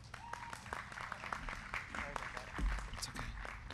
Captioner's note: crowd clapping